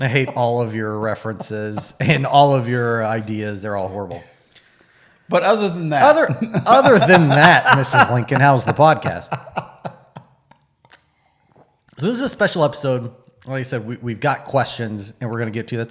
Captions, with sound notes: I hate all of your references and all of your ideas they're all horrible. - But other than that, - Other than that (laughing) Mrs. Lincoln, how was the Podcast? This is a special episode like I said, we've got questions and we're gonna get to